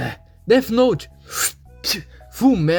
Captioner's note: spit